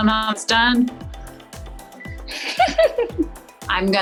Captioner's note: laughs